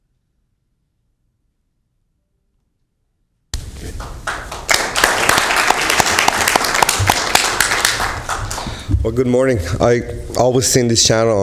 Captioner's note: applause